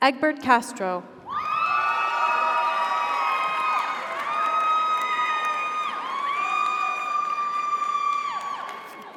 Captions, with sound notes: Egbert Castro. (audience applauds) (audience cheers)